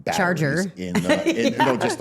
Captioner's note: laughs